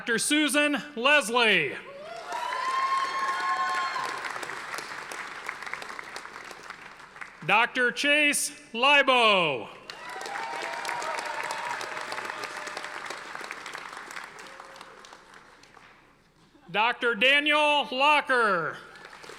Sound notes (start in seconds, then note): 1.9 audience applauding; 9.8 audience applauding